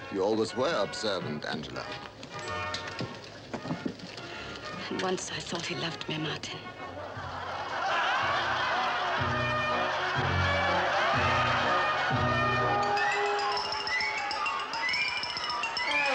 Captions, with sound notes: - You always were observant, Angela. - And once, I thought he loved me, Martin. (audience laughing) (light orchestral music)